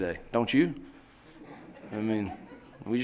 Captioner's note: laughing